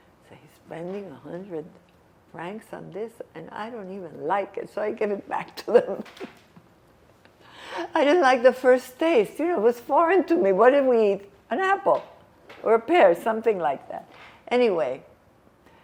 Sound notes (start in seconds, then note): 5.5 laughing